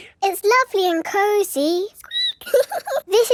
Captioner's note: squeaks